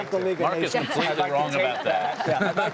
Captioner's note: laughter